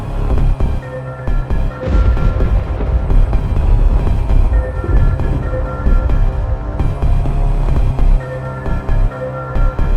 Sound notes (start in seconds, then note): 1.8 thunder